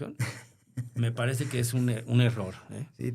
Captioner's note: laughter